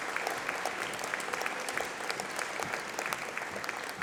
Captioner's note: applause